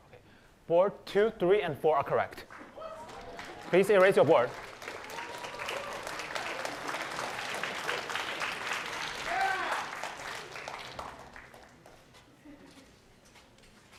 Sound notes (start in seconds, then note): 7.3 cheering; 10.5 applause